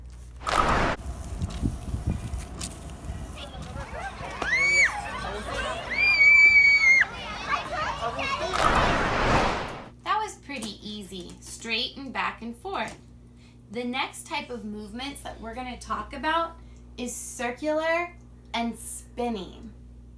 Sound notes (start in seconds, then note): 1.2 wipers whirring; 2.8 children laughing